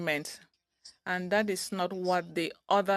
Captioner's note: speaking French